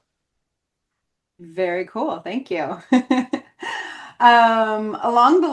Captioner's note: chuckles